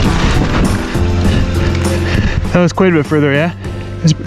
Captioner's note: upbeat music; bike tires on the trail